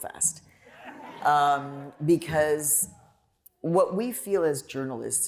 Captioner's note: laughter